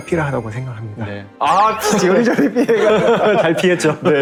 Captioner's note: laughter